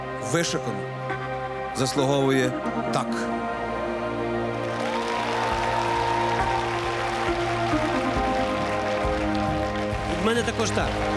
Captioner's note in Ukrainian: оплески